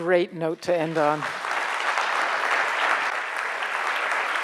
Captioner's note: crowd applauds